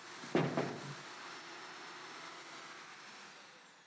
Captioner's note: knocking on window